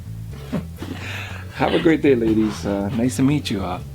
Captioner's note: Morales chuckles